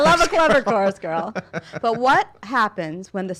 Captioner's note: laughing